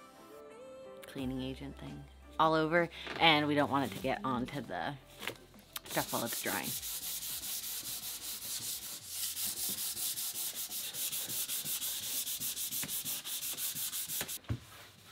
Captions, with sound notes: cleaning agent thing all over and we don't want it to get onto the scaffold as it's drying. (sand paper friction noise)